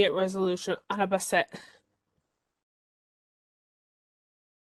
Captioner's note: speaking in native language